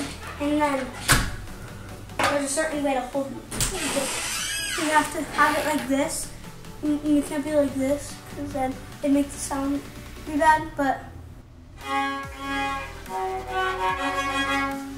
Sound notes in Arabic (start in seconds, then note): 3.5 صرير الباب; 11.8 عزف على الكمان